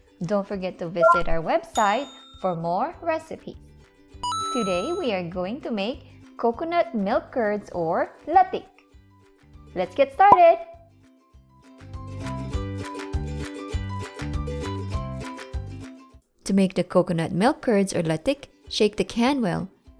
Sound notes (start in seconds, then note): 4.2 timer dings; 12.4 bottle pops